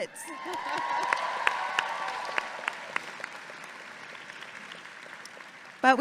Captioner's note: audience clapping and cheering